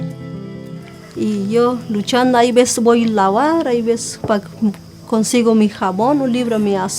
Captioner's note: speaking in foreign language